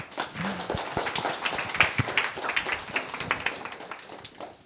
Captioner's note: all applauding